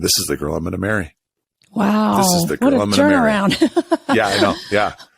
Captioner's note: laughs